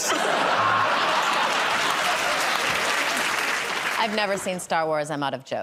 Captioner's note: laughter